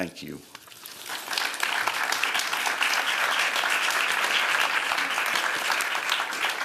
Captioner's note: applause